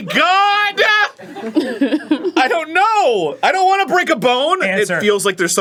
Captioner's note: chuckles